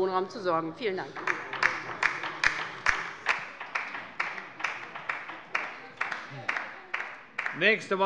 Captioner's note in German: Beifall beider LINKEN